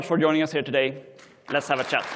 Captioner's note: applause